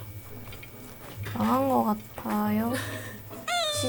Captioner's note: murmur